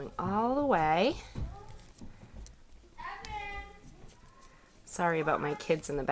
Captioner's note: kids Talking